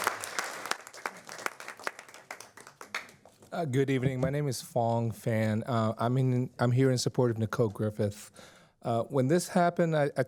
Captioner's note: applause